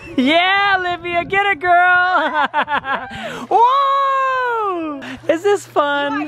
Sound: laughs

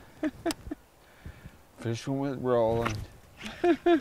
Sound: chuckling

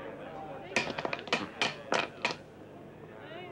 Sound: dice rattling

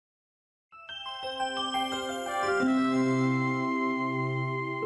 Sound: soft chimes

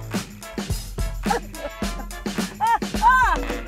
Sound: sobbing

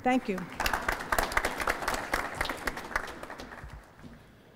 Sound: applause

